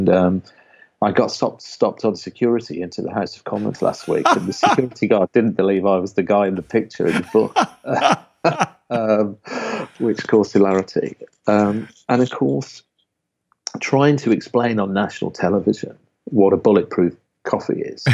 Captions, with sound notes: and I got stopped on security into the House of Commons last week (laughing) and the security guard didn't believe I was the guy in the picture in the book which caused hilarity. And of course, trying to explain on national television what Bulletproof coffee is